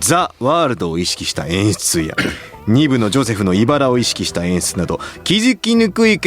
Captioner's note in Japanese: 咳払い